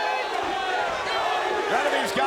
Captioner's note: audience chanting